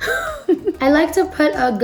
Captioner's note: laughs